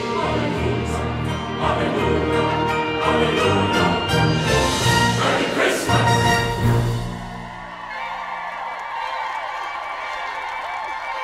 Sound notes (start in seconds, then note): 6.7 cheering